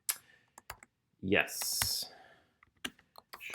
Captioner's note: typing